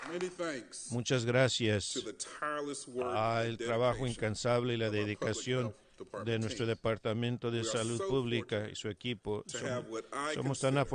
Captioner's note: applause